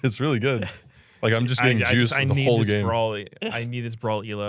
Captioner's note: laughs